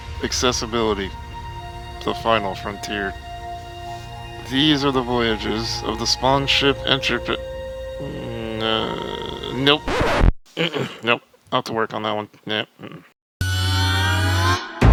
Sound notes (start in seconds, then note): 9.8 record scratch; 13.5 dramatic music